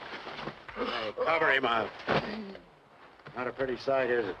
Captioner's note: gasping softly